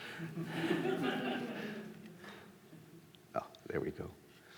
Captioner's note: audience laughs